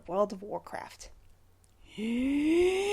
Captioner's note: deep breath